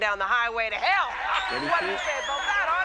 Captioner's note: crowd cheering